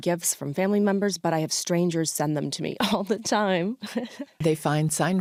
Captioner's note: laughs